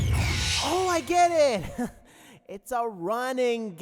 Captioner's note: alarm stops